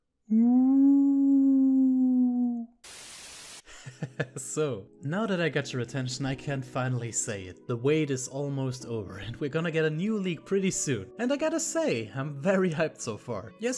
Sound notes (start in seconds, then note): 2.8 static noise; 4.0 laughs